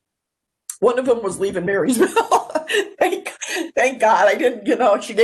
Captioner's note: laughs